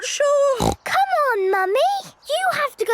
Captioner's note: snorts